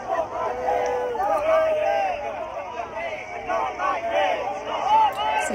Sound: boos

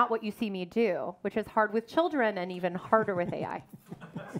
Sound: everyone laughs

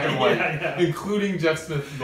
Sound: laughs

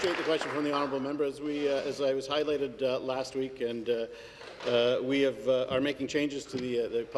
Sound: applause

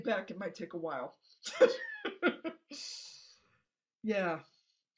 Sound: giggling

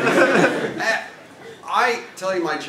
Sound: laugh

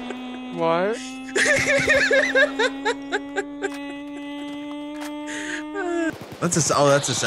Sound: suspense strings; continues laughing; suspense strings; almost creepy laughter

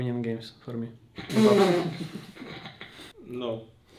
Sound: players laughing

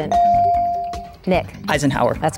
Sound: bell dinging

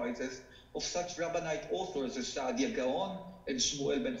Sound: speaking foreign language

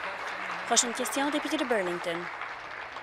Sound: applause

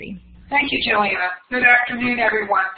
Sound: voiceover

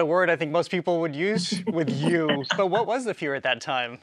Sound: both chuckle

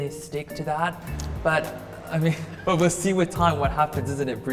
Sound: laughs

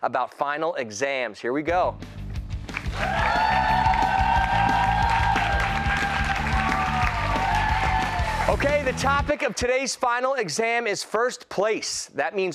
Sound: cheers and applause

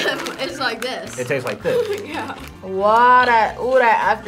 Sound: laughs

